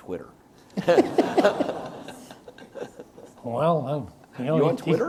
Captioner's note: audience laughs